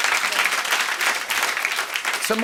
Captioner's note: applause